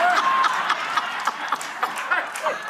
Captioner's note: laughter